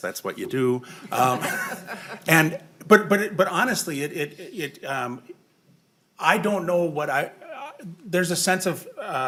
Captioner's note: laughing